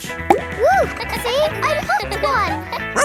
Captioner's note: kids laughing